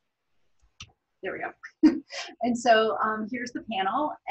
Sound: laughs

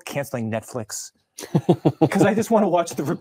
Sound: laughing

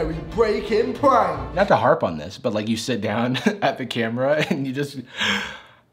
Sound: exhales

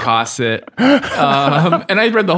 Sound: laughing

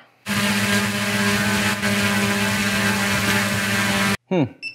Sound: electric motor running

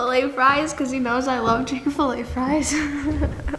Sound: laughs

